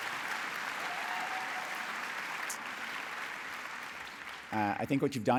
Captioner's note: applause